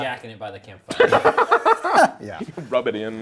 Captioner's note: laughing